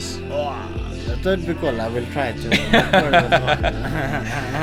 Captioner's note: speaking foreign language